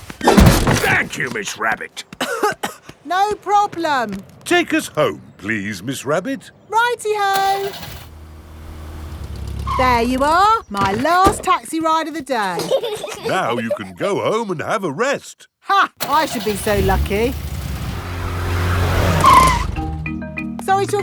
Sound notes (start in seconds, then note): 2.1 coughing; 7.3 car engine starts; 9.9 brakes squeal; 12.4 peppa and george giggling; 16.0 car engine starts; 19.1 brakes squeal